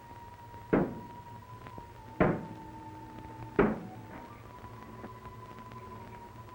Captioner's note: knocking; dramatic music